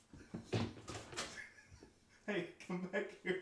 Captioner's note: laughs